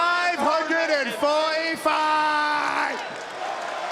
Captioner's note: crowd cheers